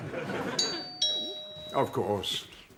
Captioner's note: doorbell